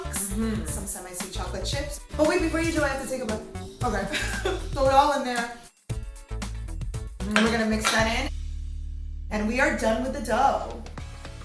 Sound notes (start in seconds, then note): 4.0 chuckling